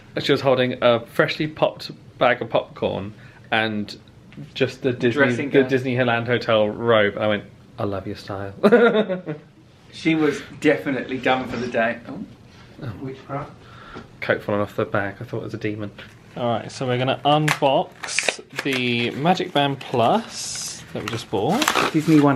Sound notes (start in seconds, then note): 9.6 laughs; 11.9 sliding sound